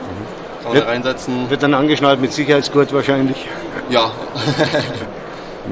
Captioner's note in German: Lachen